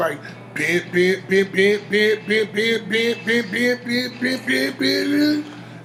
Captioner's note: humming techno music